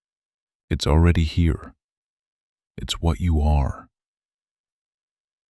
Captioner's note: long pause